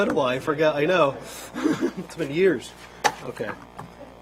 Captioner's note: laughter